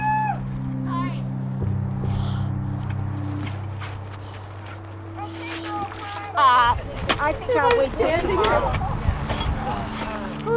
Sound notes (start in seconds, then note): 0.1 person hoots; 6.9 people chattering